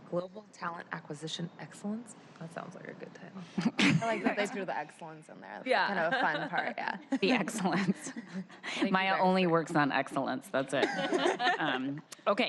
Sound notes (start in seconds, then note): 10.8 laughter